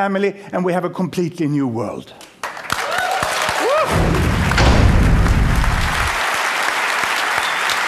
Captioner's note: applause